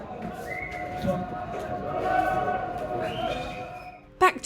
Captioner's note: shouting and whistling